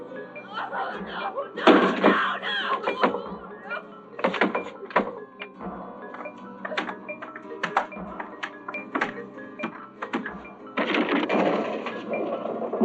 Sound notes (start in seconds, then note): 0.4 crying; 4.2 banging on door; 10.7 wood breaking